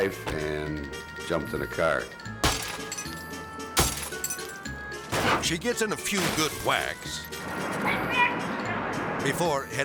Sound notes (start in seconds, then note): 2.4 window shattering; 3.7 bat smashing; 4.2 melodic music; 9.1 shouting